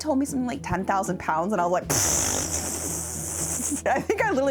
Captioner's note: splutters and laughs